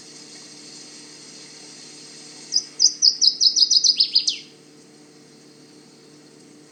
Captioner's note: Northern Waterthrush singing, trickling water in background; long pause